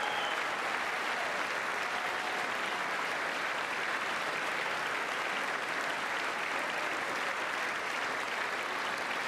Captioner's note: applause